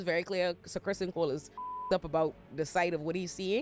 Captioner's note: beep